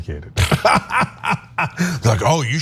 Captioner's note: laugh